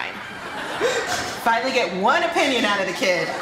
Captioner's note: laughter; laughter